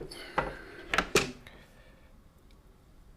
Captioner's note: silence